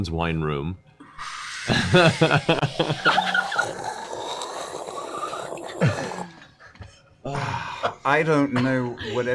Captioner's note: aerating noises and laughter